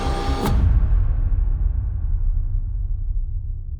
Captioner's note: tense music; bang